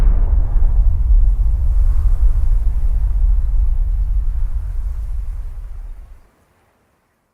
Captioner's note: wind howling